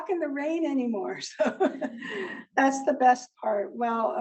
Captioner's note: laughs